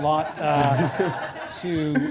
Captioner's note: laughter